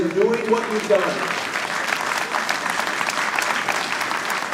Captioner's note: audience applauding